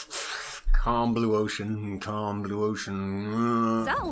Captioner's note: groans